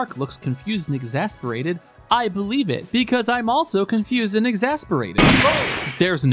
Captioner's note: gunshot